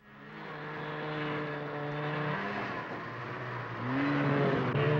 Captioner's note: snowmobiles driving